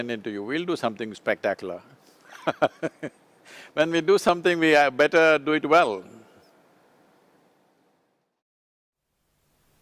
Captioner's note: laughs